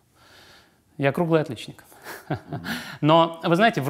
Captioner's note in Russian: смеётся